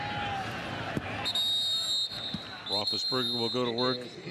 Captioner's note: whistles